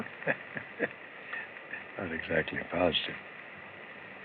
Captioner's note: chuckles